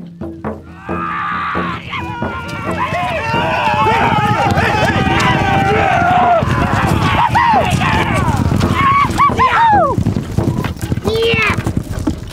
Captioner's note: battlecries